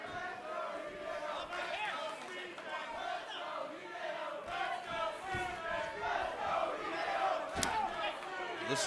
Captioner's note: fans chanting